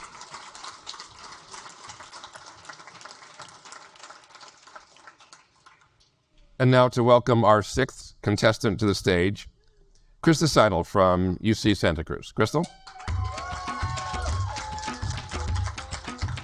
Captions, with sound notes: (audience applaud) And now to welcome our sixth contestant to the stage, Christa Seidl from UC Santa Cruz. Crystal. (audience applaud) (rhythmic music)